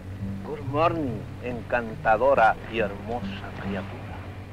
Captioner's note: General Tostada speaking in Spanish